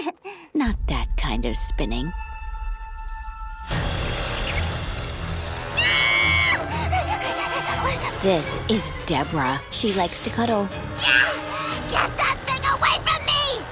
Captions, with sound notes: Not that kind of spinning. [screaming] This is Debra. She likes to cuddle. [shrieking] Get that thing away from me!